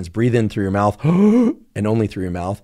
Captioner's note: inhales